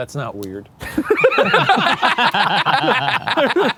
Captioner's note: group laughing